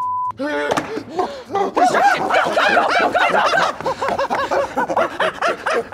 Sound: skater continues growling and barking

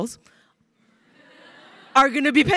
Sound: crowd laughing

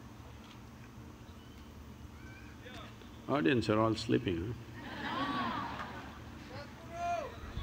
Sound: laughter

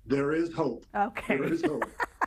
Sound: laughs

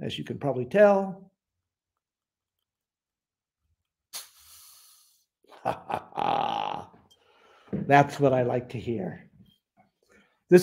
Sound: laughter

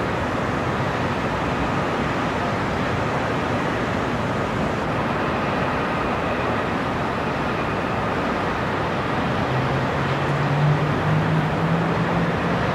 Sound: city sounds and distant cars

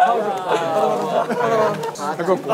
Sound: laughing

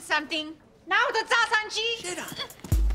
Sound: speaking foreign language

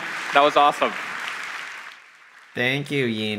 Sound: audience applauding

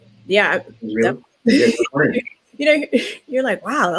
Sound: laughs

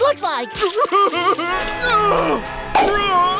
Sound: crying

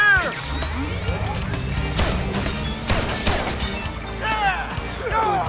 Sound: electronic charge-up; gun shots; glass shattering

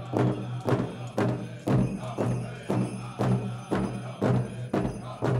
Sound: regalia ornaments jingling

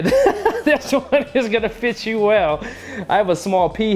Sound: laughs

